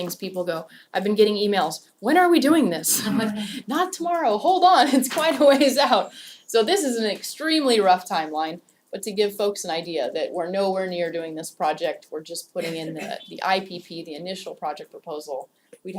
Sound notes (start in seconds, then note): 3.0 laugh